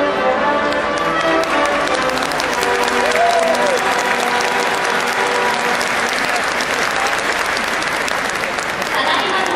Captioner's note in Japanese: 拍手